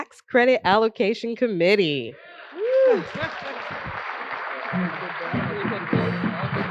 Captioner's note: applause